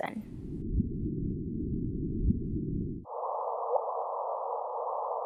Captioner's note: gravitational wave humming